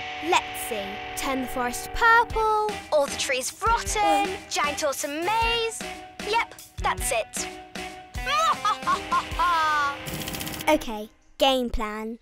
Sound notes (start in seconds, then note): 7.6 cackles